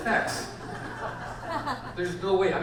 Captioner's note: audience laughs